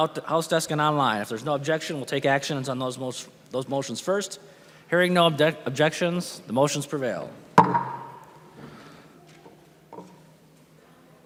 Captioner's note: gavel